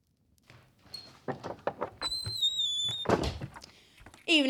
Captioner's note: door opens and closes